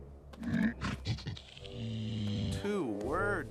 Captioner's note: sniffs, then grunts; shudders